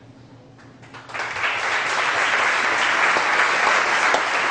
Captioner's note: audience applause